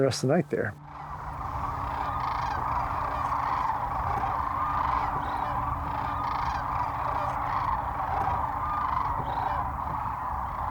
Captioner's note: crane calls